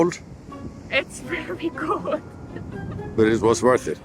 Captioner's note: laughing